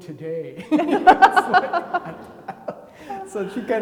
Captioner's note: laugh